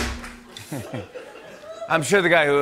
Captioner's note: laughter